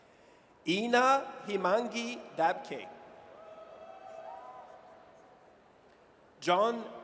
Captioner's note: audience cheers